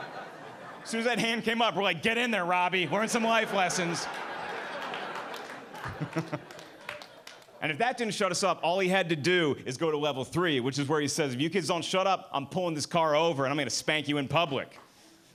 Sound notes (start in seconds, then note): 4.9 audience laughing and clapping